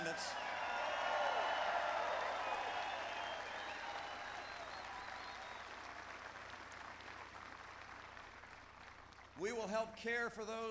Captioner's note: applause